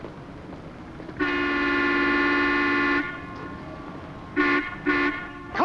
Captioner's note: horn honking